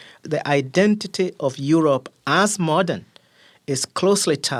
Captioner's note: none